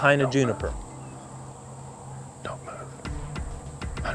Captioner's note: whispering